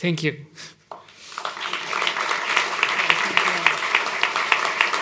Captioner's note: applause